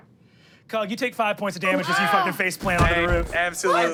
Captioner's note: computer beeps; engine powering down